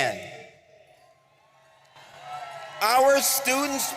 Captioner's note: audience cheering